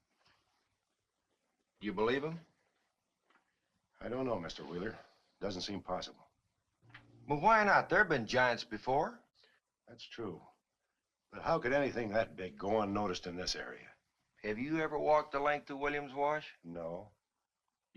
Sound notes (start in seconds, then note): none